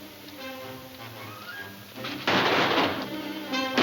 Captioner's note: guns firing